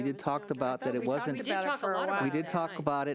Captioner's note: overlapping chattering